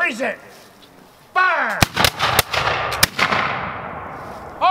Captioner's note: gunfire